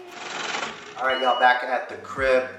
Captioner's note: motor crunches